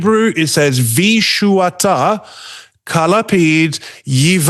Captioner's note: Hebrew